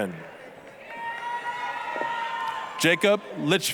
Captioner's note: applause, cheering